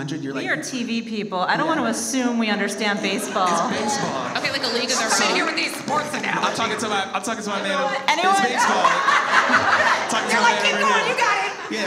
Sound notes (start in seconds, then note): 2.6 audience laughs; 8.3 all laugh